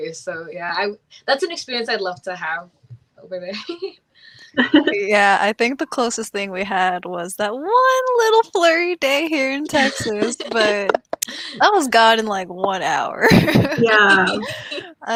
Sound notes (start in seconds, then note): 9.7 laughs; 12.9 laughs